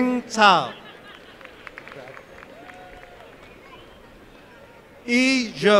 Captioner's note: applause